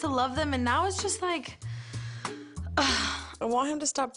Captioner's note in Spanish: sighs